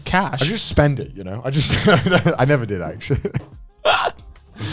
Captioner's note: laughs